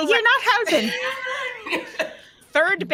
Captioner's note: all laugh